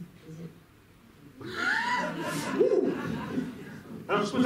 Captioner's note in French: rires